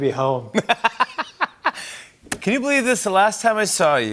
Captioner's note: laughs